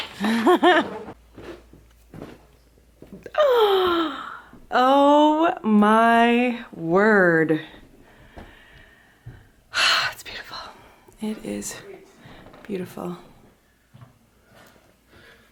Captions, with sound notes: (laughs) (gasps) Oh my word, it's beautiful, it is beautiful.